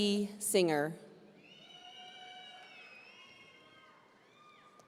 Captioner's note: audience cheering